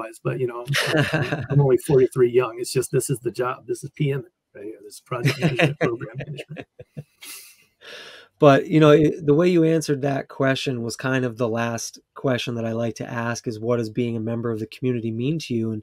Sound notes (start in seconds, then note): 5.0 laughs